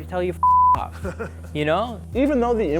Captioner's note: laughs